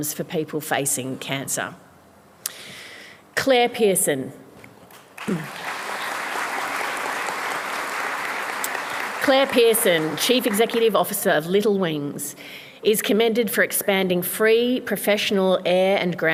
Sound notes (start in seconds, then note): 4.9 applause